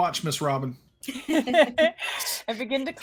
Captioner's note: chuckles